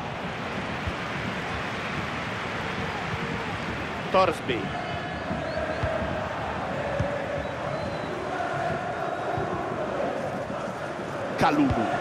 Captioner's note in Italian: Applauso